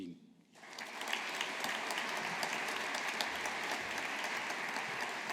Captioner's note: audience applauding